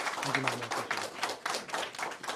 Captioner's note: applause